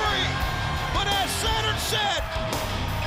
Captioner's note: crowd cheering